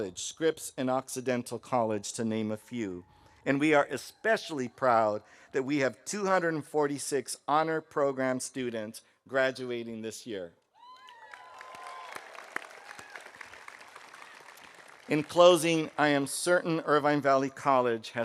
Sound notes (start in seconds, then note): 10.8 audience cheering; 10.9 audience applauding